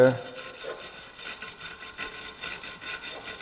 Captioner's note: scraping